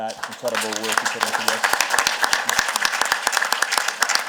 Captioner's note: applause